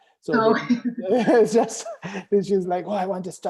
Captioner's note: laughing